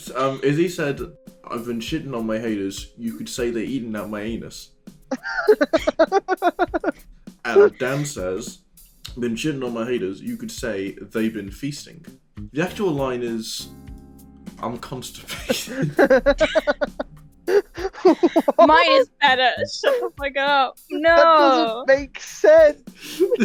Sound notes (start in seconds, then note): 5.1 laughter